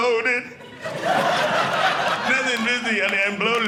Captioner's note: audience laughing